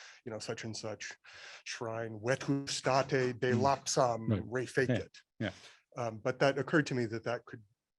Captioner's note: non-english speech